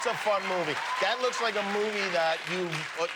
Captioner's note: cheers and applause